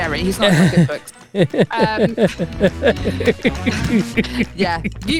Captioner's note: laughs